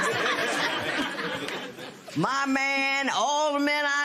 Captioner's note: laughter